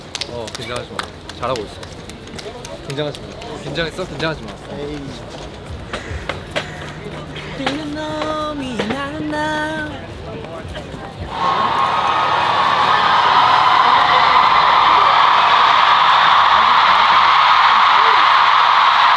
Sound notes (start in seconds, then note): 11.2 The cheers of ATINY can be heard